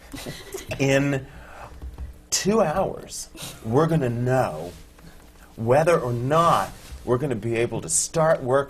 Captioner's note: laughter from the panel